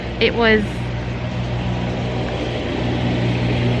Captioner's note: vehicle rumbles past